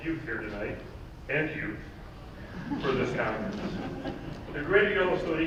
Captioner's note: laughing